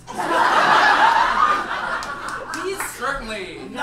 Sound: audience laughs

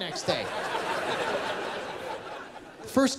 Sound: laughter

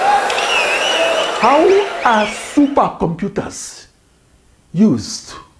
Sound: wild applause and cheering for 22 seconds

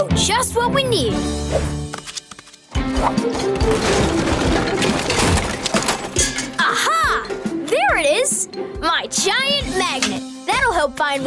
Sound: clanking

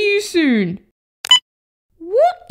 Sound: beep!

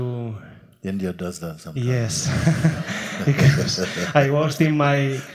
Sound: laughs

